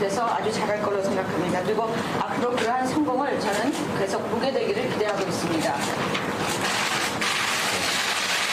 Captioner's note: speaking non-english